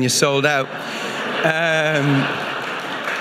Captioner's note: audience laughing; audience applauding